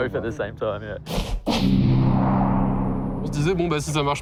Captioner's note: swooshes